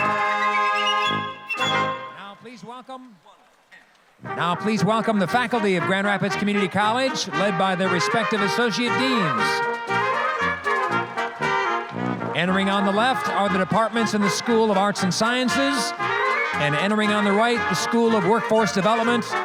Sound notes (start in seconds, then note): 0.0 orchestral music; 10.3 applause; 10.3 orchestral music